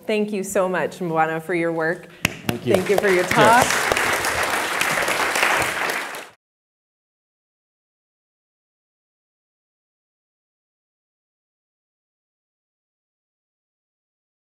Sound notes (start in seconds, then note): 4.9 applause